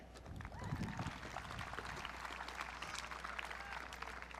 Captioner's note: audience clapping